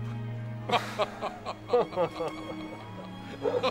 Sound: both laugh

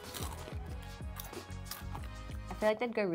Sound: snack crunching

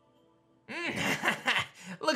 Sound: chuckles

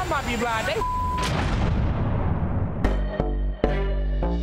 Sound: beep; dramatic sting; upbeat hip hop music

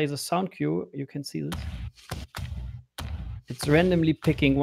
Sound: booming sound

